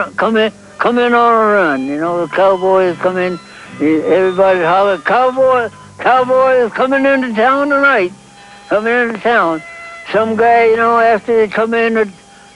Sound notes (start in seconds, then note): none